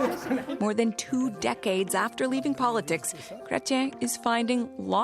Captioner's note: laughter